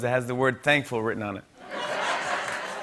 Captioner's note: laughter